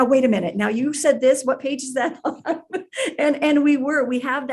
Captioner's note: laughs